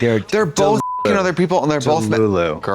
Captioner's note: beep